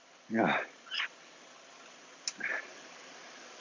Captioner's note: groans